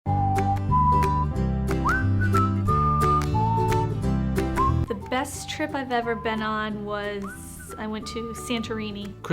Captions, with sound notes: (cheerful music) (person whistling) - The best trip I've ever been on was I went to Santorini.